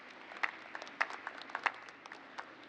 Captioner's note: applause